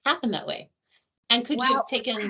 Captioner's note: chuckling